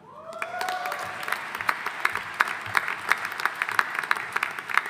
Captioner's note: audience applauding